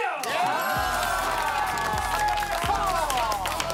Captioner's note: cheers